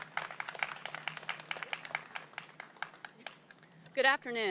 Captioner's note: applause